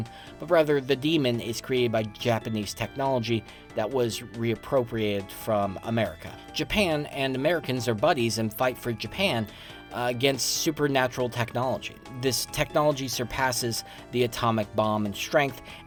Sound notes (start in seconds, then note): none